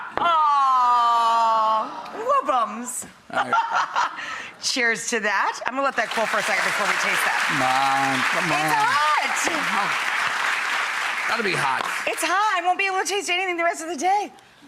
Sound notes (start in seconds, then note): 2.7 laughs; 5.9 audience applauds